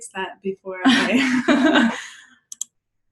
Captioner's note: laughter